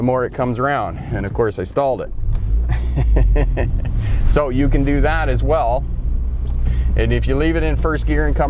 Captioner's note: restarting the engine